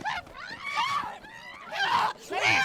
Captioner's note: Grace and Cathryn yelling